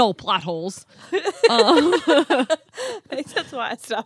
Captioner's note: laughing